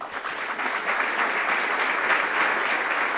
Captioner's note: applause